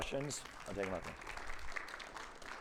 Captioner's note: audience applauding